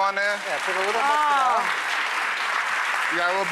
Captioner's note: clapping